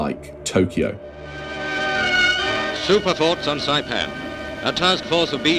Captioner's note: soundbite of archived recording